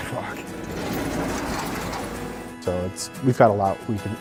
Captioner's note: plow scoop rattling